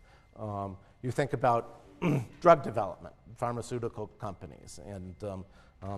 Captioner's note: cough